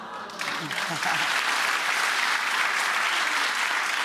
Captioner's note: applause